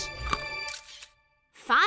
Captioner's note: camera snap